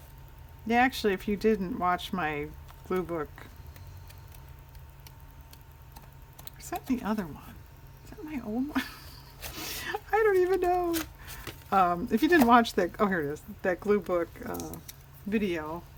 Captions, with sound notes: if you didn't watch my glue book-- is that in the other one? (laughs) my old one? i don't even know-- if you didn't watch that-- oh here it is-- that glue book video,